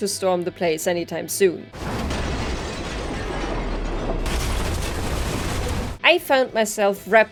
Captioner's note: sounds of crashing